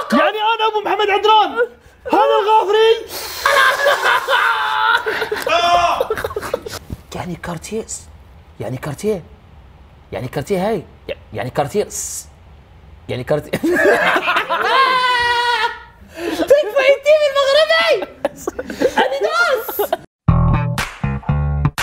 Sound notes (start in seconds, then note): 3.1 laughing; 13.5 laughing; 20.3 outro music plays